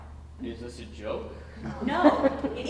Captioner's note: audience laughing